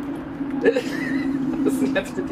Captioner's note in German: lacht